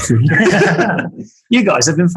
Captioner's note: group laughing